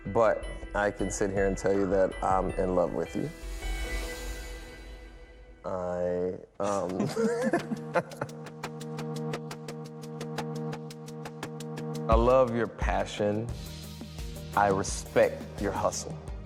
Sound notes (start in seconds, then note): 6.6 laughter; 9.2 anticipatory music